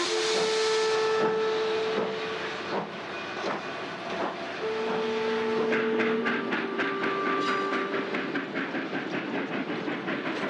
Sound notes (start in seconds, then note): 0.1 steam hisses; 5.7 train rumbling